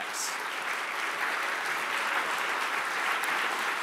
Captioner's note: audience applauds